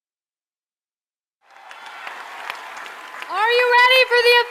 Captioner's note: audience cheering & clapping